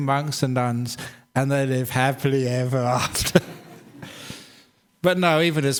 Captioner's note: laughs